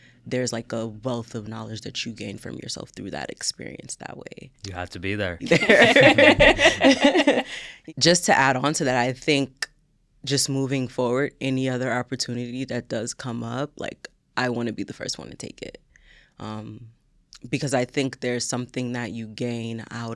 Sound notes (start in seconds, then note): 4.7 all laughing